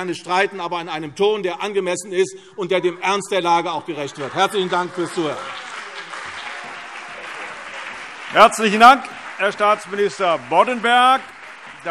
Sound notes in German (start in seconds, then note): 5.3 Anhaltender lebhafter Beifall CDU und BÜNDNIS 90/DIE GRÜNEN - Zurufe